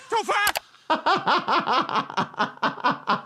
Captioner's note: laughs